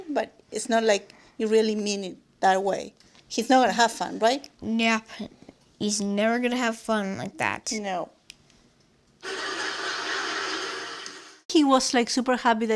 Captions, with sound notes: but it's not like you really mean it that way. He's not gonna have fun right? Nope. He's never gonna have fun like that [laughter]